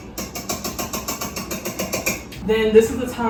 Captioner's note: fork clacking